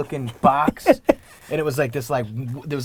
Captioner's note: Gary laughs